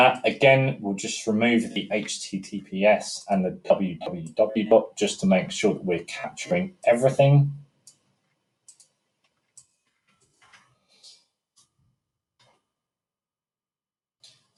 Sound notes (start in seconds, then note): 8.6 mouse clicking; 9.9 keyboard clicking